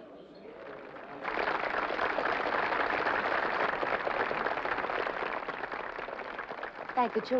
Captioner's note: applause